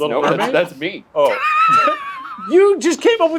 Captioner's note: laughs